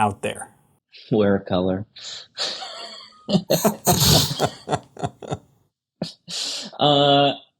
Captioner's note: laughs